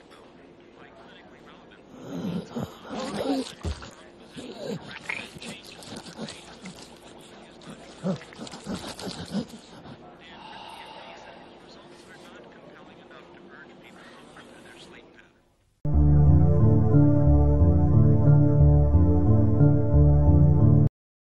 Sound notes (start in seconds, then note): 1.8 hoarse breathing; 7.8 panting